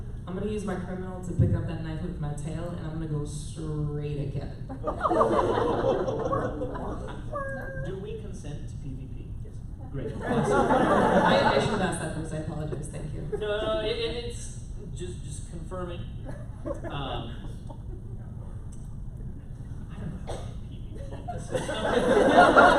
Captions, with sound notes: I'm going to use my Criminal to pick up that knife with my tail and I'm gonna go straight at Kevin [Laughter] do we consent to PVP? Yes. great [Laughter] I should have asked that first I apologize thank you no it's just confirming. um I don't know how to do PVP in this system.